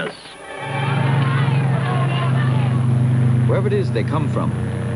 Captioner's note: people clamoring